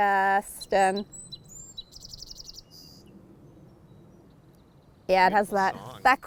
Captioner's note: birds chirping